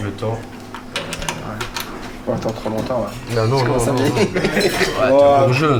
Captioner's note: laughs